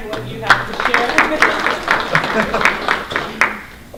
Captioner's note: applause